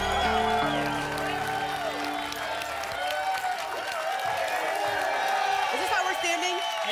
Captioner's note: applause and cheering